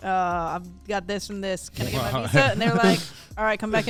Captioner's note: hosts laugh